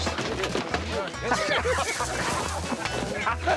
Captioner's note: laughter